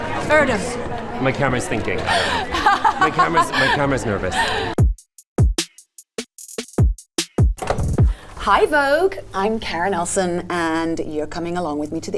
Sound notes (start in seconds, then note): 2.1 Karen laughs; 5.6 upbeat music